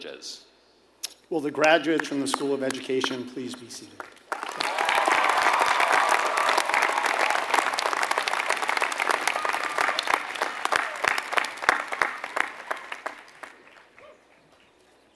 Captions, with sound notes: privileges. >> Will the graduates from the School of Education please be seated? >> [APPLAUSE]